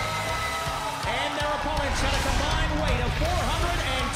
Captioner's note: crowd cheering